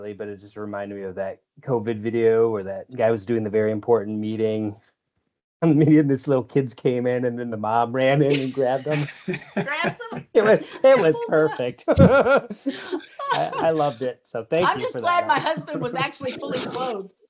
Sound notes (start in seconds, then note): 9.1 laughs; 11.6 laughter; 17.0 laughter